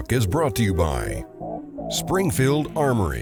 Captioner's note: voiceover